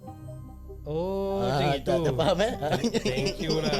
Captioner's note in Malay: ketawa